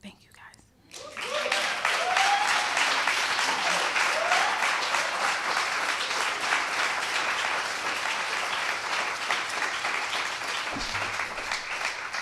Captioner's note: applause